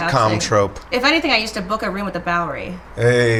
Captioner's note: laughs